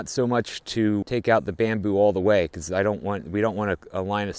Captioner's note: none